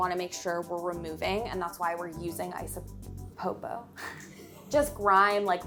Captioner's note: laughing